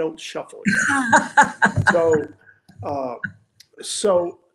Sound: laughing

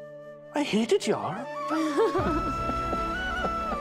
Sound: laughing

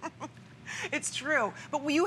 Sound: laughter

